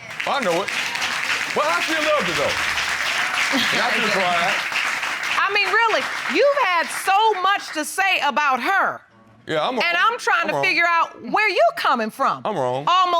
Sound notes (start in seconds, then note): 0.3 audience applauds; 3.5 butler chuckles